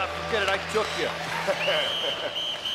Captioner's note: whistling